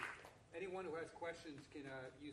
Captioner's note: applause